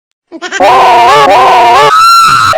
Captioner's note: mimics FNATI jumpscare but scarier again; mimics FNATI jumpscare but scarier